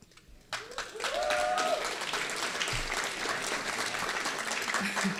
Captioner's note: audience applauding